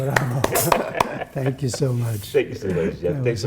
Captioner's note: applause